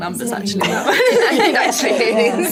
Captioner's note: all laughing